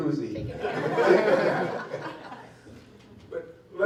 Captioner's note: laughter